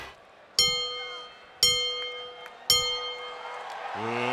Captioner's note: bell chimes